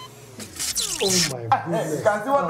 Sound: electricity zaps

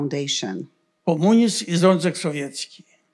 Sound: foreign language

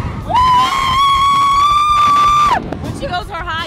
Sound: screaming

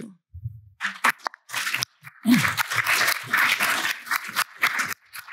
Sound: applause

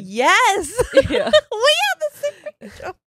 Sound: laughs

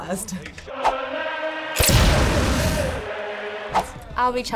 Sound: explosion

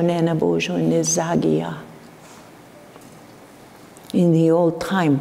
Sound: foreign speaking

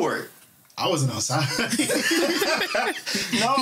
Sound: laughter

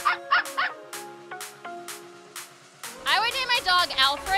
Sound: dog barking

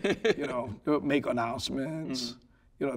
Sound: laughing

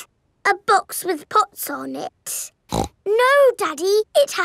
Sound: snorts

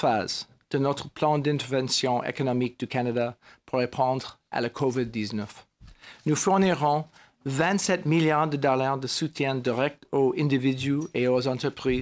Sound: speaking french

